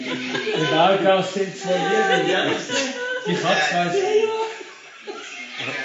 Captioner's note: group laughing; group joking in Swiss German